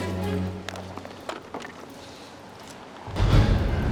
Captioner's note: cords thumping; suspenseful music